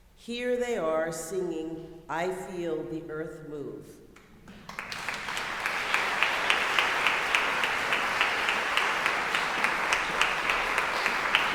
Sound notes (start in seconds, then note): 4.5 audience applauding